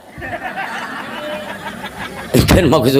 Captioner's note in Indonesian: tertawa